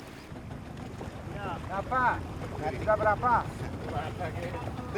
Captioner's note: speaking Austronesian language